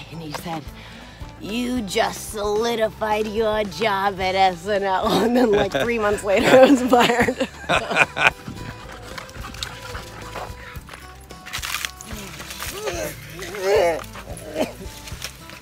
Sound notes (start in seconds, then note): 7.5 laughs; 8.8 dogs pant; 12.7 Kevin groans